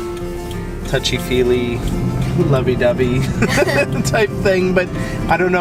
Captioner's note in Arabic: يضحك